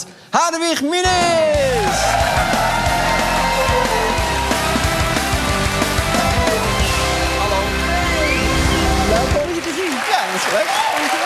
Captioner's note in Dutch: applaus, muziek